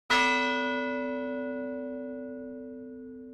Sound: bell dings

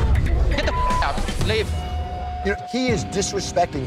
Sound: beep

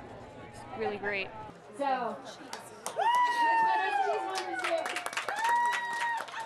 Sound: cheering

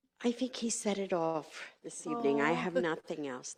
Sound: awww

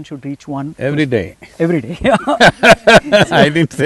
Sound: both laugh

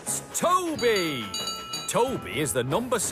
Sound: toby rings bell

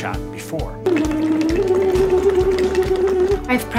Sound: blowing bubbles

